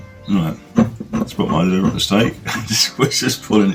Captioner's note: laughing